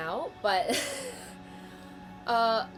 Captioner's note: laugh